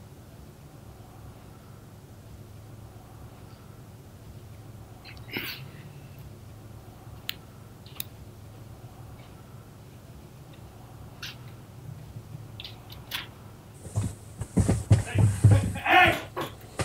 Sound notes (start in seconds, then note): 5.0 snipping; 14.3 loud commotion